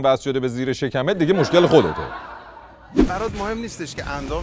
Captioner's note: laughter